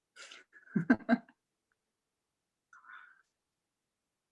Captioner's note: laughing